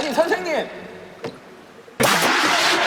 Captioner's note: bang!